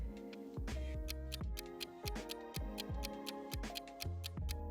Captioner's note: clock ticks